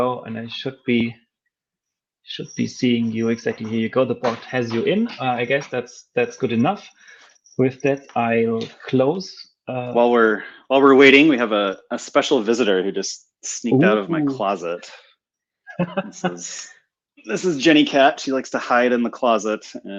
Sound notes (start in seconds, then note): 15.7 laughing